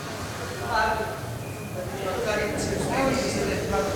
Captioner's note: indistinct chatter